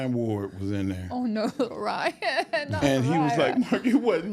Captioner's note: laughs